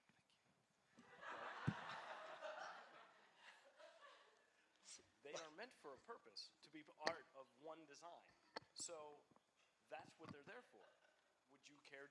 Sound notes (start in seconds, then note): 1.0 laughter